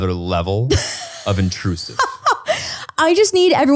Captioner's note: laughing